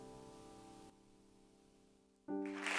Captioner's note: cheers and applause